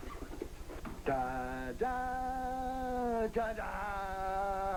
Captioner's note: hums